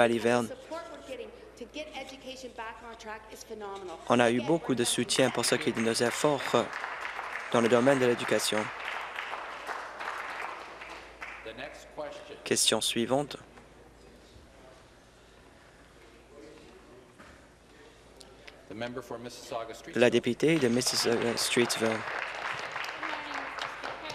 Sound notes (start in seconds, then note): 10.0 applause